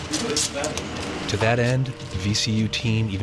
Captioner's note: voiceover